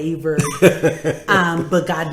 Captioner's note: laughing